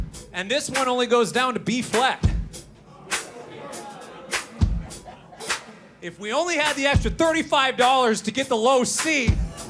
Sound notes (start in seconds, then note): 2.8 audience members laugh; 3.6 lively drum music